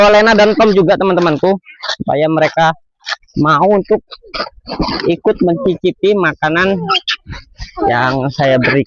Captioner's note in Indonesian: berdehem